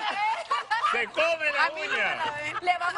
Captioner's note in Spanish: Carcajadas